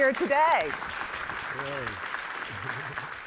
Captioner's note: applause